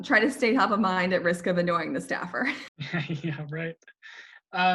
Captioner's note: laughs